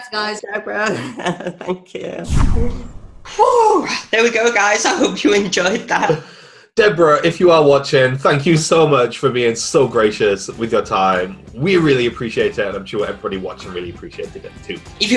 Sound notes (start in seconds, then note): 1.0 laughing; 2.2 air whooshing; 3.5 exhaling; 11.2 upbeat music